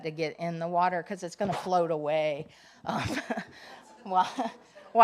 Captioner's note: laughing